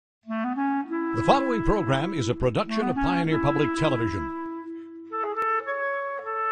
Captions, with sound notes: - [Voiceover] The following program is a production of Pioneer Public Television.